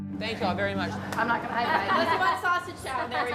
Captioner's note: laughs